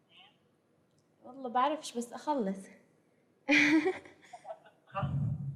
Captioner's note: non-english speech; laughs; non-english speech